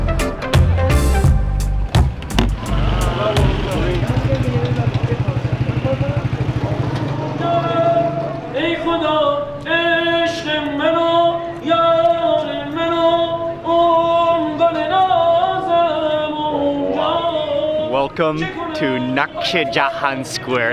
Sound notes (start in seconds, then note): 4.2 motorcycle engine revving; 9.3 man singing in foreign language